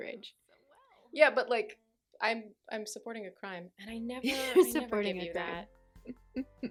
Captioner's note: laughing